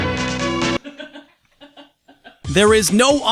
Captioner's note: chuckles off-screen